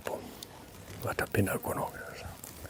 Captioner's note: speaking in another language